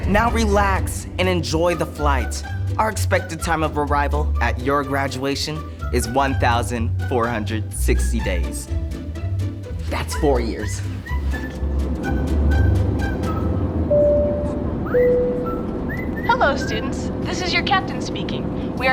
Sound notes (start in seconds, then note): 14.0 cabin bell chimes